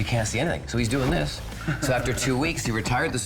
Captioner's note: both laughing